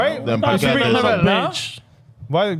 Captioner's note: speaking In Foreign Language